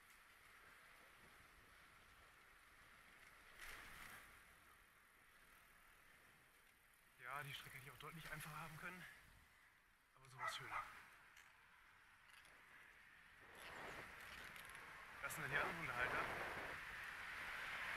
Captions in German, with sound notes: Ja, die Strecke hier hätte ich auch deutlich einfacher haben können... ...aber so war's schöner. [Hundebellen] Das sind dann die anderen Hundehalter...